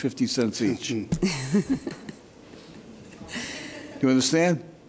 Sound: laughs

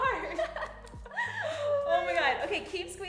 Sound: laughs

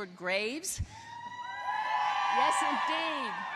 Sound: applause

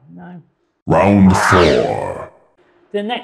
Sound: announcer Voice

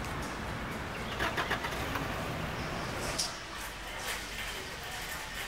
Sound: car starting

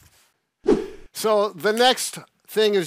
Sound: whooshing sound

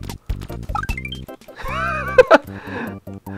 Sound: wheezing laughter

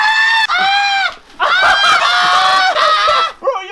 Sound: manly screams; more Manly screams

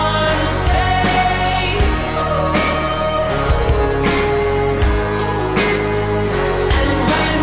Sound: wooooh oooooh

